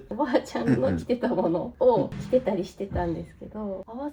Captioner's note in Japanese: 咳払い